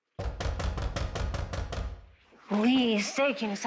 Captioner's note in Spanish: Toques en la puerta